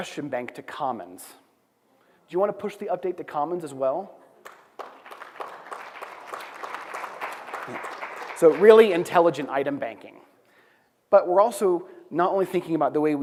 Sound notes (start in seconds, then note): 4.4 applause